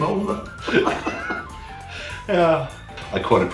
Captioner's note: laughs